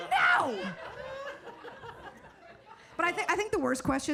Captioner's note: audience laughing